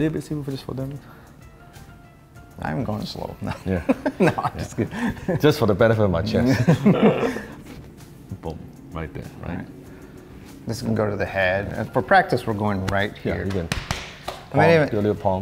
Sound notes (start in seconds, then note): 3.4 laughs; 6.3 both laughing